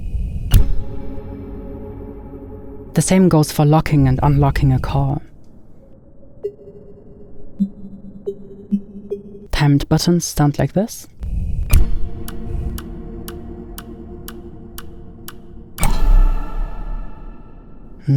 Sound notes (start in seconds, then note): 0.1 mysterious music; 6.5 soft warble; 11.6 timer ticking; 11.7 soft warble; 15.9 bright warble